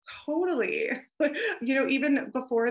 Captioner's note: chuckles